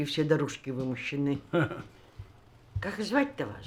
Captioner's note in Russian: усмешка